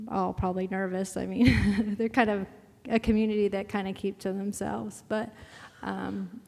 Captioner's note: laugh